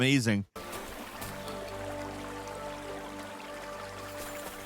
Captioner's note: brook babbling